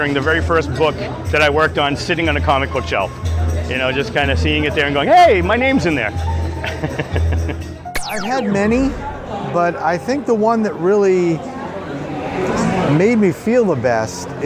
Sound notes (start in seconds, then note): 6.7 chuckling